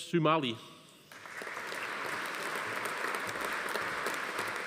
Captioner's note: audience applauding